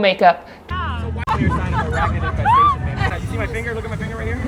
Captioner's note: all laughing